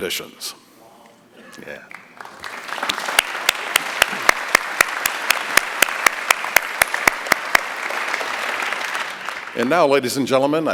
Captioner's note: applause